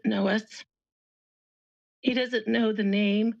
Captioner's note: pause